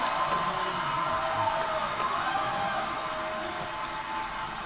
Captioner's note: great applause on film clip